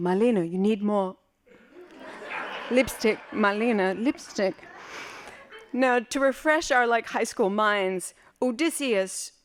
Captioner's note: laughing